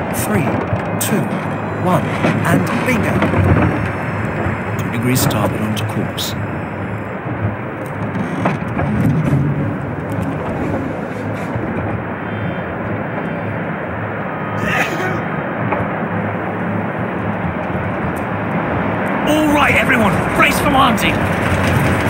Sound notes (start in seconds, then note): 6.9 plane is flying and a soldier coughs